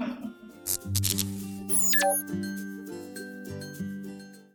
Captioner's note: fizz, blip